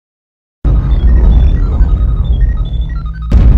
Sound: electronic beeping

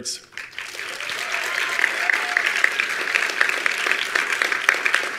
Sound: attendees applauding

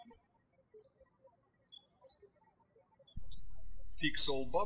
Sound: birds chirping

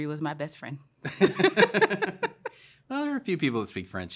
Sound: laughter

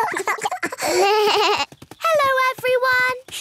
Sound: laughter; bleating

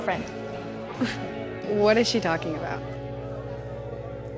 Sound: scoffs

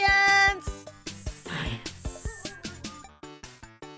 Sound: whispers

